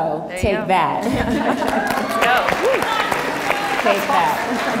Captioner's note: audience applauds